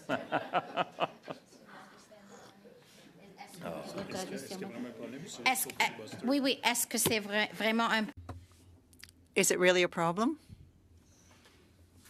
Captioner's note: laughter